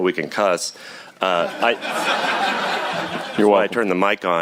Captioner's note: laughter